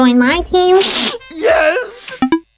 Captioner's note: snif